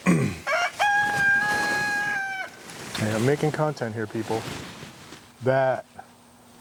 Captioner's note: Farrow Rooster crowing